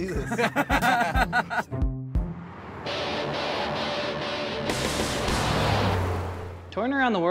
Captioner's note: laughter